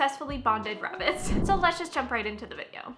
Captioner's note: whooshing